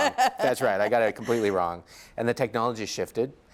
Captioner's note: laughs